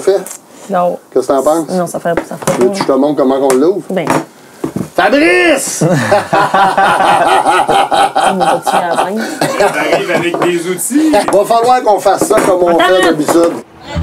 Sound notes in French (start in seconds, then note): 5.8 Rires